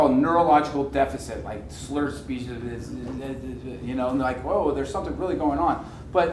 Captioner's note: slurring